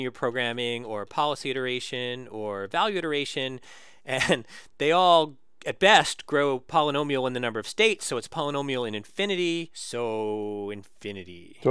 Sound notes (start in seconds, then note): 3.8 laugh